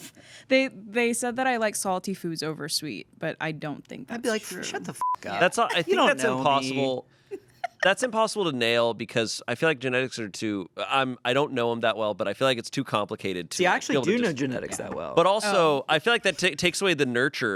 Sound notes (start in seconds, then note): 5.0 beep